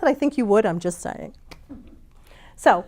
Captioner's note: audience chuckles